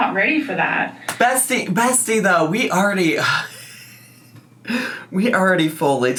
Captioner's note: sighs